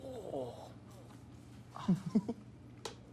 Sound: laughs

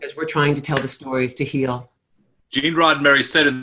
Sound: hands clapping

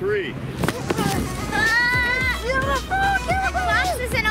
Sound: screams

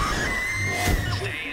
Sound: screaming

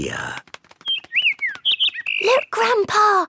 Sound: bird

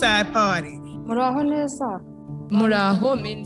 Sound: speaks foreign language

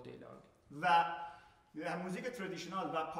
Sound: speaking in farsi

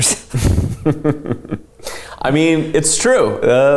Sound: laughing

